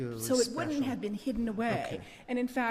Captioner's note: voiceover